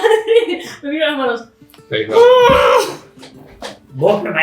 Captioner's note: groan